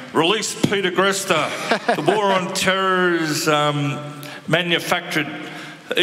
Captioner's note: laughter